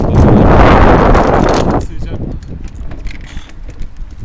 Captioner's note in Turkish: rüzgar sesi